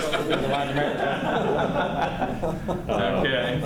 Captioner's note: laughter